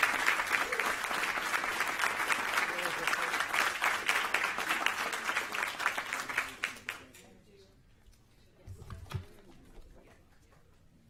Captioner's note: applause